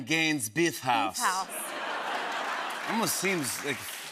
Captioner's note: laughter and applause